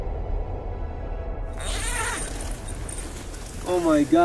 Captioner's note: tent zipper unzips